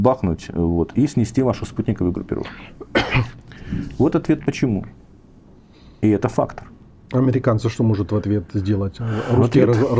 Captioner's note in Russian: кашель